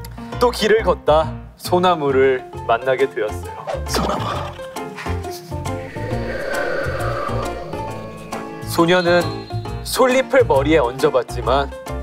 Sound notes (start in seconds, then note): 5.8 A sound effect of wind